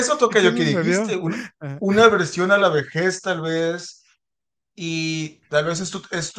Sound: laughs

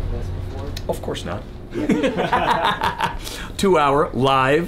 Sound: laughs

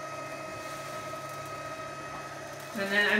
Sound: motor whirring

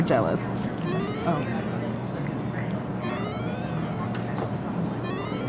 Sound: cell phone rings

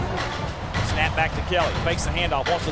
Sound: voiceover

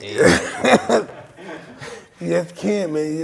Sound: Mike laughs

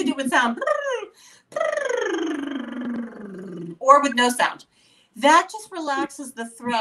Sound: lip-trilling

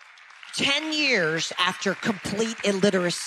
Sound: audience applause

